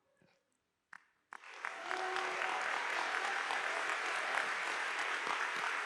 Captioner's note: audience applauding